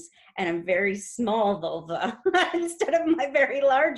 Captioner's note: laughs